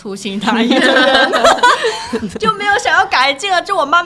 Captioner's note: laughter